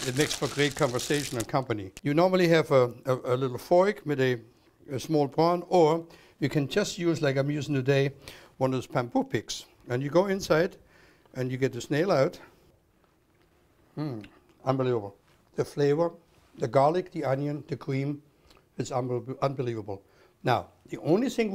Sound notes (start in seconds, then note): 13.2 eats